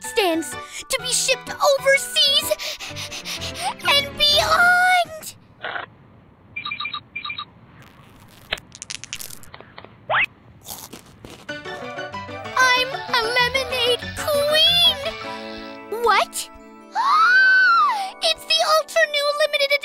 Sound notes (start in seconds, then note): 2.4 panting; 5.2 slurp; 10.6 crunching; 17.8 long gasp